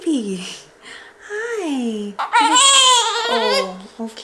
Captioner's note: cries